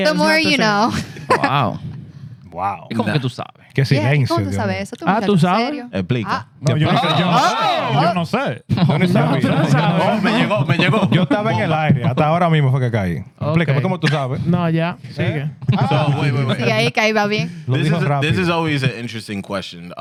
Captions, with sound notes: The more you know. Wow. Wow. (Speaking In Foreign Language) This is always an interesting question.